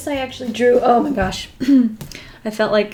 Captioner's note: clears throat